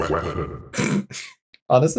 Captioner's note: snorts